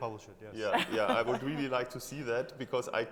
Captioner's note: chuckling